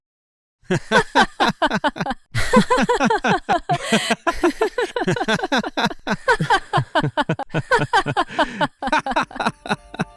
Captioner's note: both laugh; Freyja stops laughing; Loki continues laughing